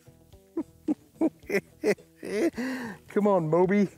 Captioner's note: cackles